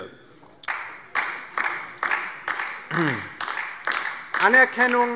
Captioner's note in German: Beifall DIE LINKE